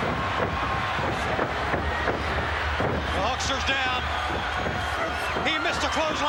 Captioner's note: applause